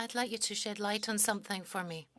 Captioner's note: speaking French